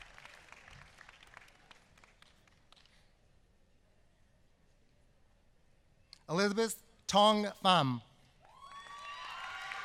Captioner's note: applause